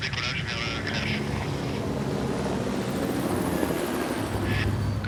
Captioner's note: blades whirring